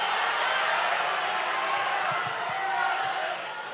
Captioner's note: applause